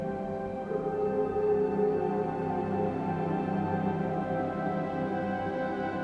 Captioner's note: mysterious music continues; dogs howling in the distance; mysterious music continues